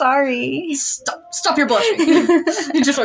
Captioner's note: laugh